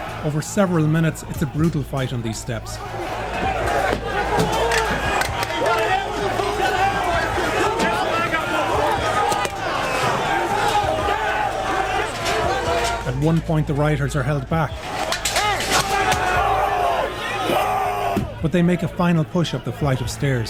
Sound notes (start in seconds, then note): 14.8 groaning